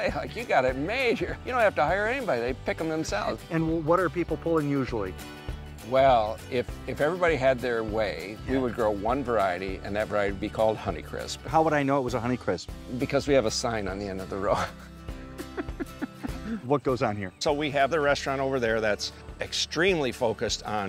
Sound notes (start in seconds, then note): 15.2 laughing